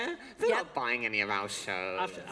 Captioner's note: laughter